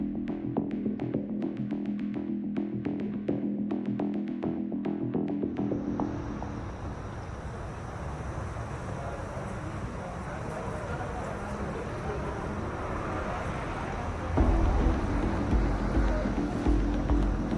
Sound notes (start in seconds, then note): 8.5 background chatter; 14.3 dramatic music